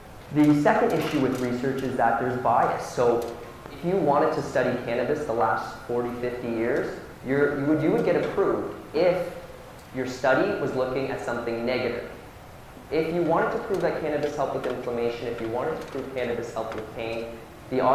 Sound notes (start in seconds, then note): none